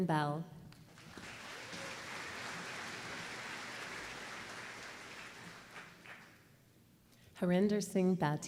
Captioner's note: applause